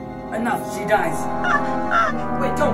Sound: screaming

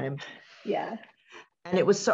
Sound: chuckles

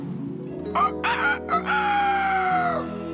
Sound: rooster Crows

